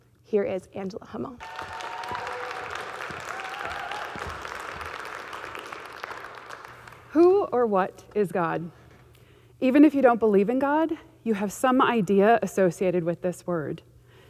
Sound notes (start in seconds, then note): 1.4 audience clapping